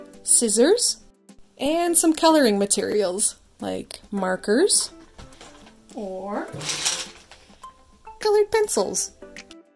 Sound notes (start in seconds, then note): 6.4 rattling